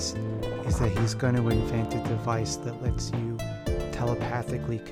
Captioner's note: confused